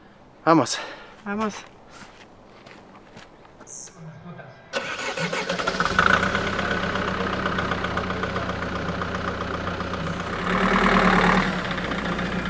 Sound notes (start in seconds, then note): 0.9 in Spanish; 4.7 engine starts